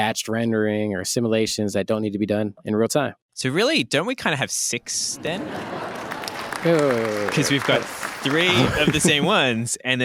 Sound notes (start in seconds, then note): 5.1 polite laughter and applause